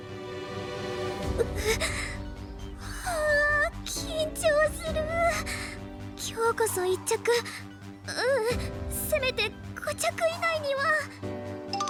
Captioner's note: sigh